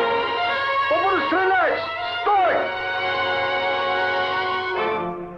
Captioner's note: soldier yelling in Russian